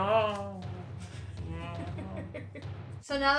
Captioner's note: laughs